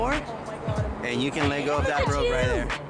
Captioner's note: lady wailing